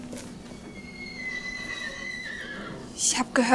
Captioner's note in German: Wiehern